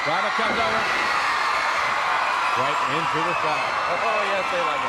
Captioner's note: crowd cheering